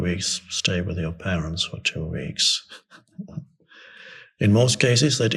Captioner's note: chuckles